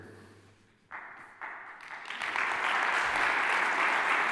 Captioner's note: applause